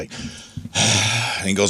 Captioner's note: sighs